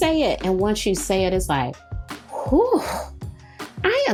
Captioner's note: sighs